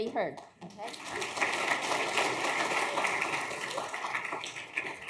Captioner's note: audience clapping